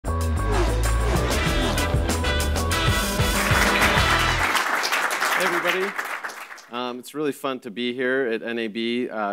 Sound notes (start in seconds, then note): 0.2 upbeat music; 2.8 audience clapping